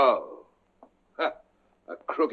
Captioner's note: chuckles